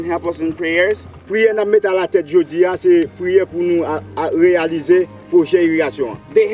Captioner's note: speaking in foreign language